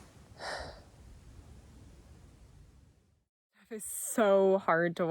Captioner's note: sighs